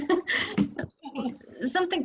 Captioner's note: laughs